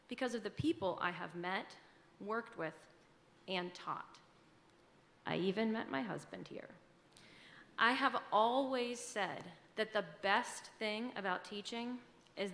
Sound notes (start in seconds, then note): none